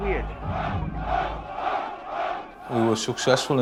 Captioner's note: chanting